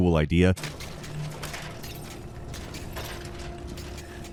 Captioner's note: metal clangs